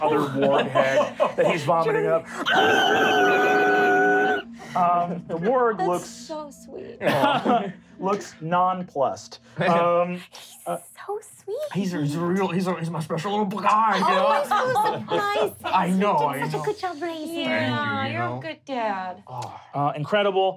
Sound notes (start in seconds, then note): 2.4 squealing; 7.0 laughing